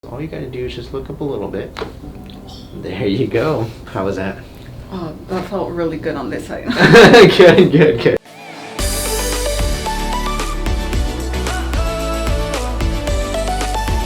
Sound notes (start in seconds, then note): 1.9 popping noise; 6.7 laughing; 8.2 upbeat instrumental music